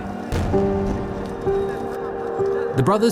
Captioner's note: muffled explosions